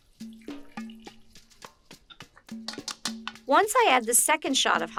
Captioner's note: water pours